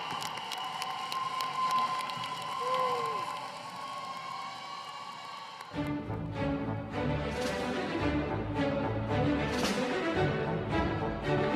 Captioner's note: cheers and applause